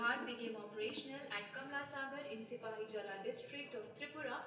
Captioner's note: speaking in foreign language